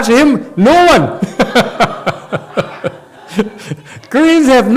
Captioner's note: laughs